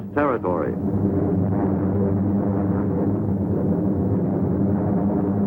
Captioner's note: airplane engine roaring